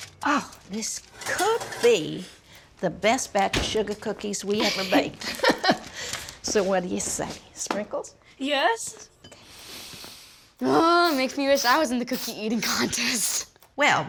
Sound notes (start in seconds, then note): 4.6 chuckles; 10.6 sniffs